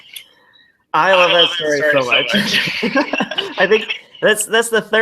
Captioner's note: laughs